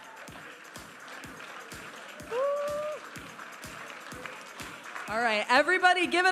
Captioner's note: audience applauding and cheering